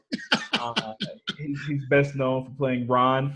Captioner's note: laughs